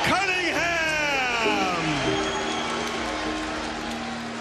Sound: crowd cheering

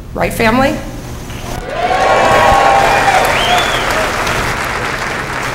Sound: cheers

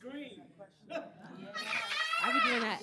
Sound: screaming

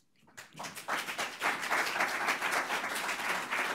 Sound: audience applauds

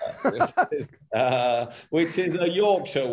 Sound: both laugh

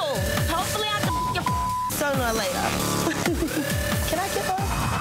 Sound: beeps

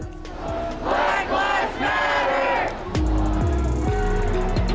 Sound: crowd

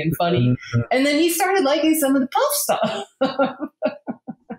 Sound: laughs

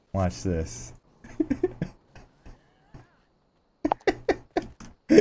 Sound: laughing

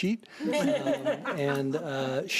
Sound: audience laughing

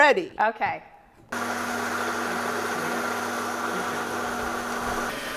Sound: blender whirring

